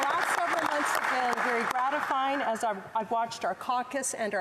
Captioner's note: applause